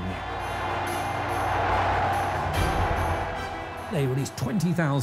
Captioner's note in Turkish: kalabalık tezahürat